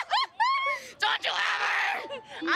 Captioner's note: both laughing